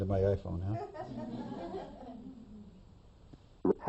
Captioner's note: laughter